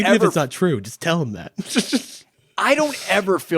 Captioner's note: laughs